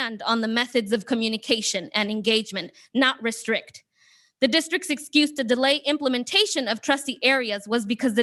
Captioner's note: none